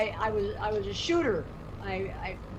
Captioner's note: none